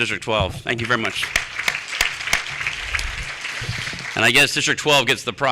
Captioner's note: applause